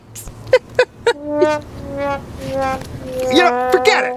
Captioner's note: laughs